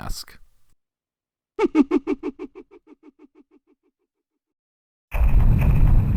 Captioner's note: Mask Salesman laughing